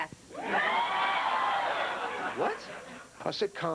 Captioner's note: laughter